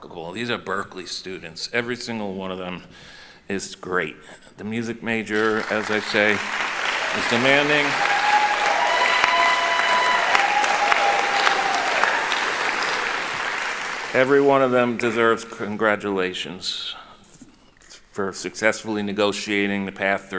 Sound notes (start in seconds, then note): 7.7 applauding; 8.7 cheering